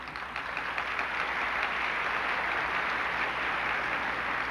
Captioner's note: applause